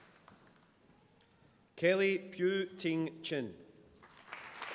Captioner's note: applause